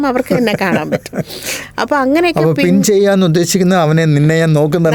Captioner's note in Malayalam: പൊട്ടിച്ചിരി